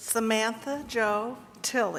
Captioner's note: none